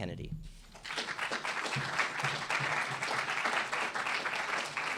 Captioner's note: audience applauding